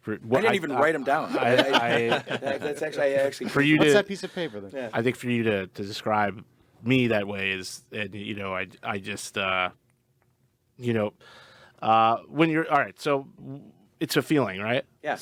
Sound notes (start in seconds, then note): 0.4 laughing; 3.1 group chattering